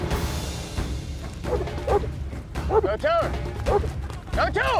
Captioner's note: dog barking; dog barking